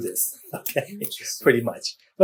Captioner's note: laughs